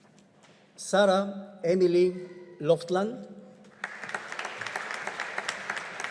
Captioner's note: audience applauding